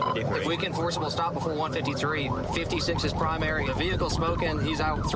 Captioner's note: warning sirens